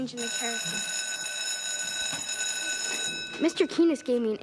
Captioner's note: school bell rings